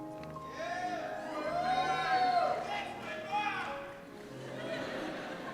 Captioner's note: cheers